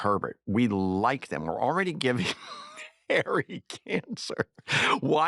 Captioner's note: chuckles